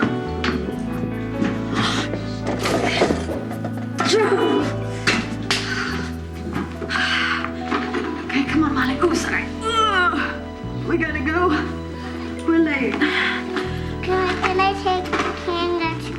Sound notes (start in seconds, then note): 1.6 gasps; 4.0 grunts; 6.6 sighing; 9.8 grunts